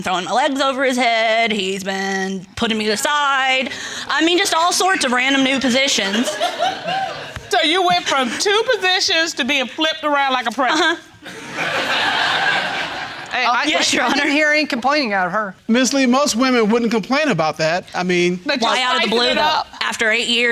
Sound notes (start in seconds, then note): 6.0 audience laughs; 11.2 laughter